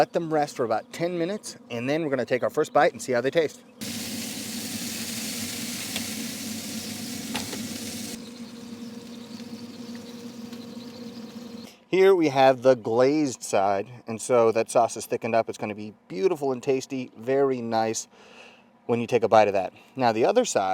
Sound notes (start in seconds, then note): 3.8 chicken Smoking and Sizzling